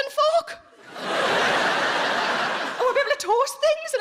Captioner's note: audience laughing